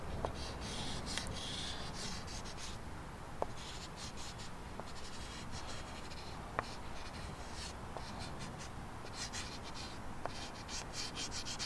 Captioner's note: sketching sounds